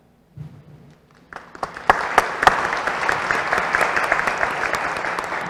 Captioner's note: applause